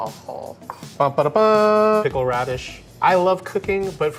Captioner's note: imitates trumpet